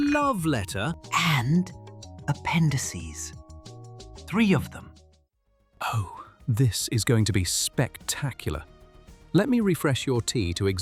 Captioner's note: whispers